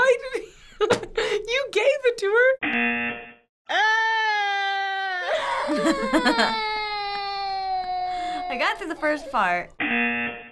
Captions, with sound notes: Why did he--? You gave it to her! (buzzer) - (mom whining) - (laughing) I got through the first part. (buzzer)